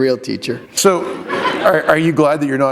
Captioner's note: laughter